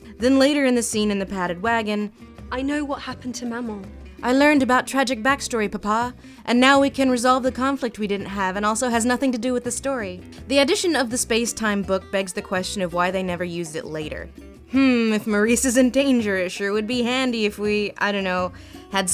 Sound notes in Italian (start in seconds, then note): 4.4 imitando BELLE; 6.8 voce fuori campo